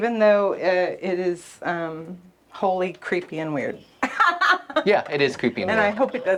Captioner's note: laughs